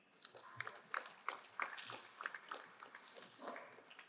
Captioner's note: crowd applauding